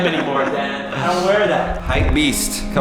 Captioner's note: laughter